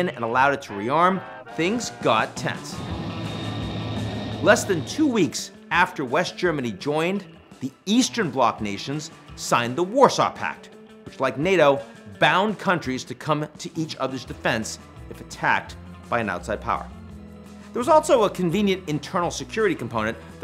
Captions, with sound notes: and allowed it to re-arm, things got tense. (upbeat music) (aircraft swooshing) Less than two weeks after West Germany joined, the Eastern Block Nations signed the Warsaw Pact, which, like NATO, bound countries to come to each other's defense if attacked by an outside power. There was also a convenient internal security component